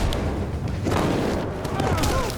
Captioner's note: thud; rifle shot fired; thud, groans